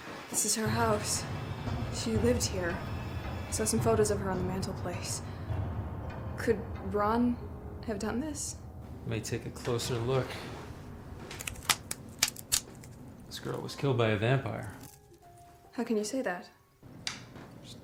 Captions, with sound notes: This is her house. She lived here. Saw some photos of her on the mantle place. Could Ron have done this? Let me take a closer look. (Neck cracks) This girl was killed by a vampire. How can you say that?